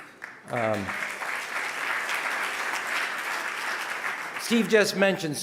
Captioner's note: audience applauding